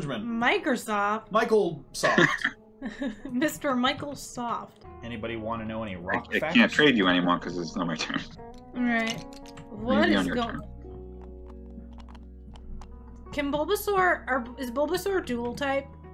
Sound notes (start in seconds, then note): 2.8 laughter